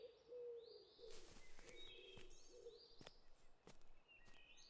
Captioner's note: birds chirping